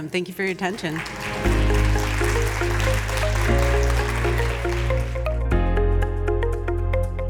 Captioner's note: soft upbeat music; audience applauding